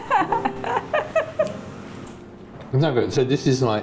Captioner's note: laughing